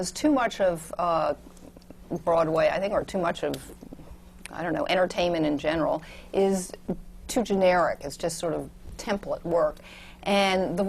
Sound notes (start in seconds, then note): none